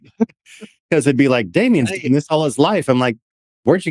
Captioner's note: laughing